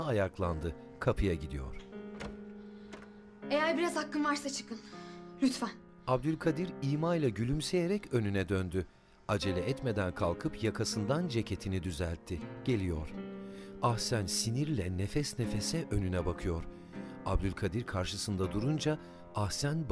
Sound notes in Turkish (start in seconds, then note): 1.7 Kapı açılma sesi; 6.5 Nefes sesi